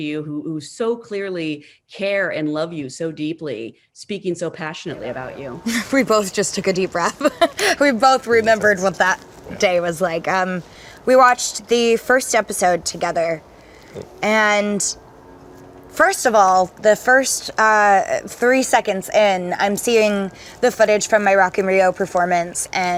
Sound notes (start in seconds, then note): 7.4 laughs